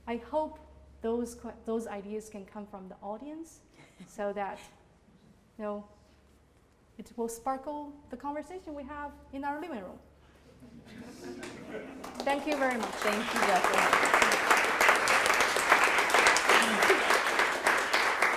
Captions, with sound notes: I hope those ideas can come from the audience so that it will sparkle the conversation we have in our living room. (laughter) Thank you very much (applause) - Thank you. (applause)